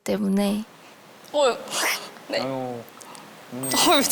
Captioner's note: tearing up